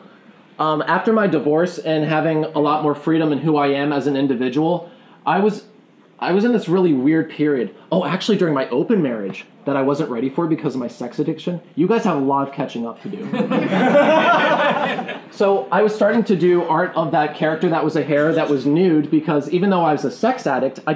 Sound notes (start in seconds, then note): 13.1 laughing